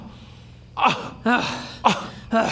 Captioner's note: agh; ugh